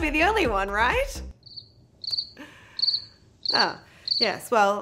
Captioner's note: crickets